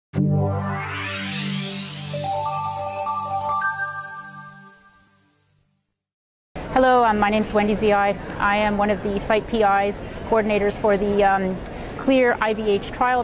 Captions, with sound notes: (chiming) - Hello, my name is Wendy Ziai, I am one of the site PI's, coordinators for the Clear-IVH trial,